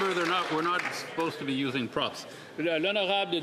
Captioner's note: some Applause